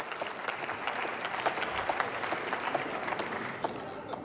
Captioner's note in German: Beifall